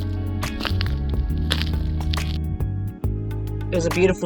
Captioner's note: crunching salt